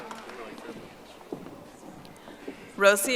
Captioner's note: audience applauding